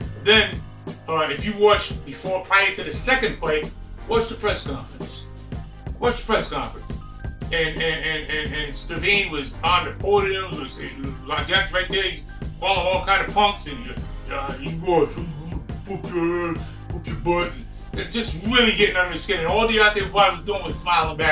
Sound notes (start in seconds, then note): 12.2 murmuring, imitates a deep voice